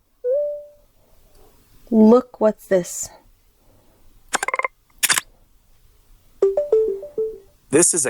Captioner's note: camera press and click sound